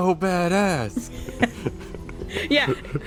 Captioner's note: laughs